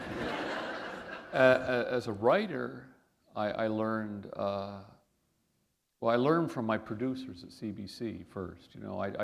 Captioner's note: laughter